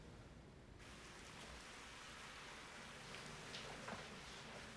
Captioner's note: shower Running